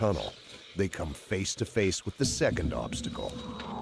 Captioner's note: voiceover